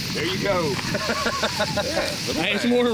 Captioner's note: laughing